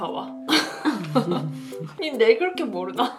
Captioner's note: laugh